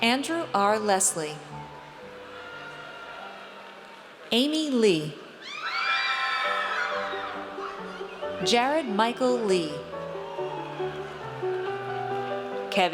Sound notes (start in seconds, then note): 5.4 audience cheers